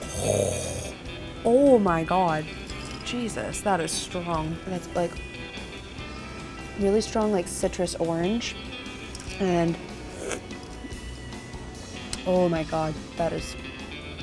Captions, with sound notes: Oh, my God! Jesus, that is strong. And it's, like, really strong, like, citrus orange and. (slurping loudly) Oh, my God. That is.